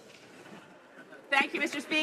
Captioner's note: speaking in french